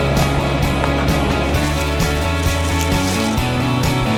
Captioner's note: lively music continues; vehicle motor humming